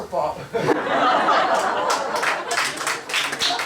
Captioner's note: laughter, applause